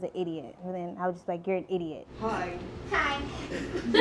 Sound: audience laughing

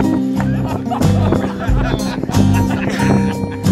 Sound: laughing

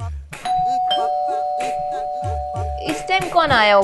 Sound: door bell ringing

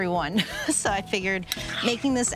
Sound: chuckles

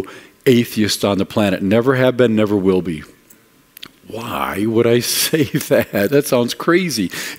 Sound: laughing

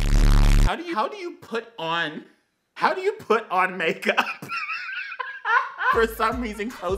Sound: laughs

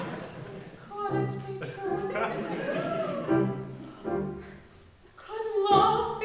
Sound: audience laughs

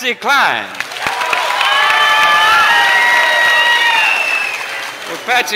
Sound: applause, loud cheers

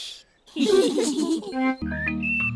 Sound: all giggle quietly

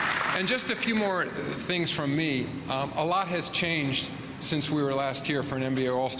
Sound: applause

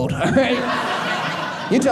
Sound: audience laughing

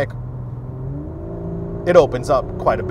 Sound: engine revving

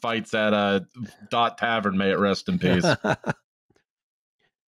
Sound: laughs

